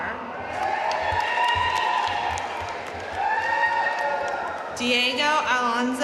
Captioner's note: audience cheering and applauding